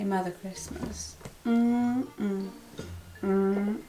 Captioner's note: mmm mm